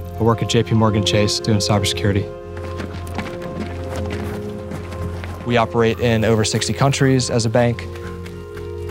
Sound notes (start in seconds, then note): 2.3 heavy footsteps; 7.9 running footsteps